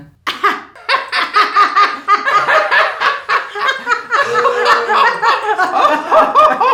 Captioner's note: laughing crazy people